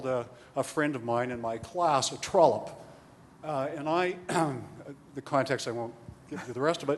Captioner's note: clears throat